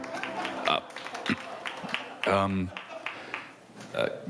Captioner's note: crowd applauding